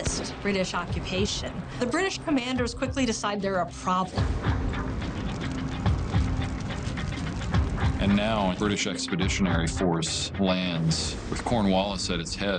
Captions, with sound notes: would resist British occupation, the British commanders quickly decide they're a problem. (fire crackles)(tense music) - And now, a British expeditionary force lands with Cornwallis at its head.